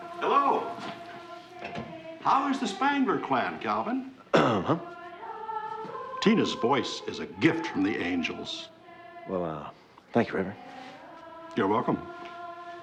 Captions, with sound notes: Hello. How is the Spangler clan, Calvin? (CLEARS THROAT) Huh? Tina's voice is a gift from the angels. Well, uh, thank you, Reverend. You're welcome.